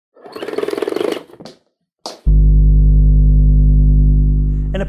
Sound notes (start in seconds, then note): 0.2 saw whirring; 2.2 bass hum